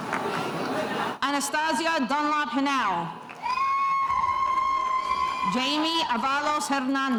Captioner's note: spectators cheering